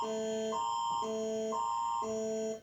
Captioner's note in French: tons d'alerte